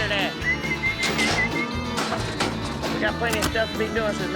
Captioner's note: booger whistling